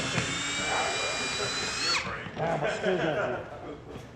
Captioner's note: drilling